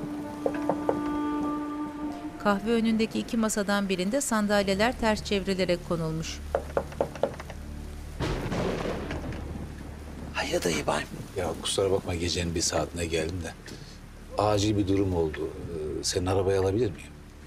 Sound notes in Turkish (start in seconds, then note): 0.3 Kapı tıklanma sesi; 2.7 Yağmur sesi; 6.4 Kapı tıklanma sesi; 6.6 Kapı açılma sesi; 8.2 Gök gürültüsü sesi